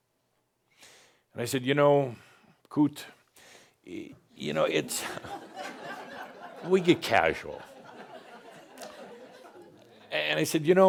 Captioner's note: laughter